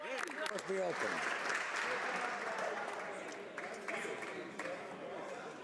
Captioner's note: applause